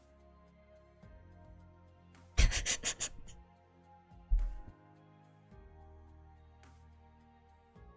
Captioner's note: quiet laughter of disbelief